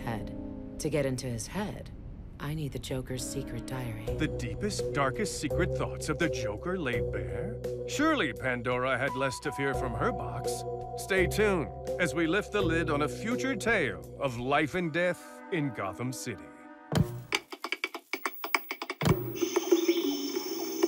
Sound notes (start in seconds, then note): 17.0 tap shoes tapping; 17.3 TV set clicks; 18.6 clicks